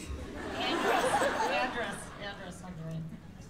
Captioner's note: laughter